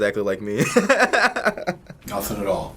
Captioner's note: laughs